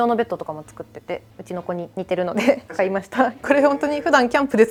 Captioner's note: laughs